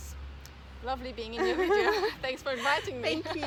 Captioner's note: risos